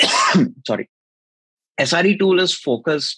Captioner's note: sneeze